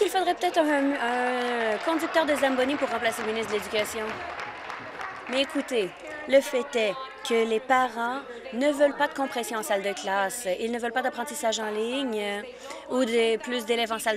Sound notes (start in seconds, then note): 5.8 applause